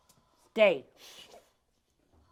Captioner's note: commanding